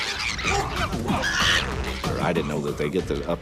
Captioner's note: chimpanzees squealing